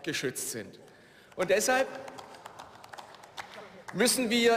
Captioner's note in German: Beifall